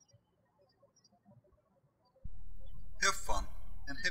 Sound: birds chirping

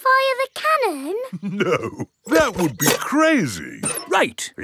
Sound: chuckling

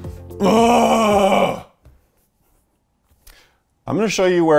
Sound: moans in frustration

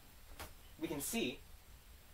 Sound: light slap

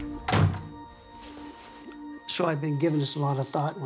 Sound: door clicks

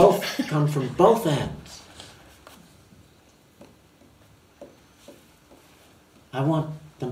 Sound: laughs

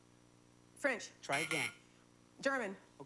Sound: buzzer

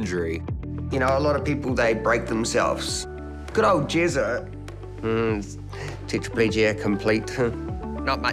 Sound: chuckles

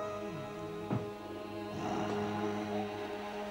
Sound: snoring

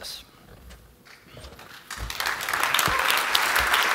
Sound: applause

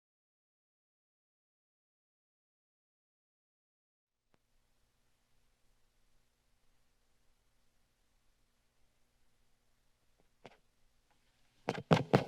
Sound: silence; taps mic

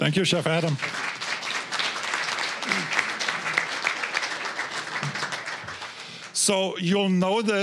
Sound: applause

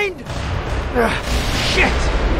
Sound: distant explosion; explosion

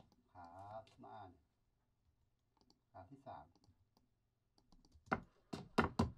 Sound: speaks in a foreign language

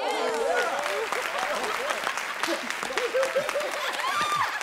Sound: laughter

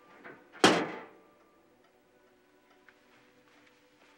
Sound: oven door slams

